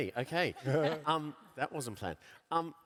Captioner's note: laughs